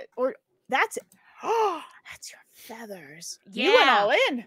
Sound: gasps

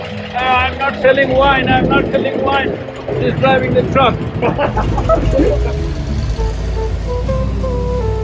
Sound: laughter

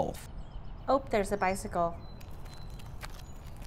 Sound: birds chirping

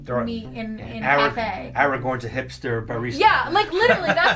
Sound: laughs

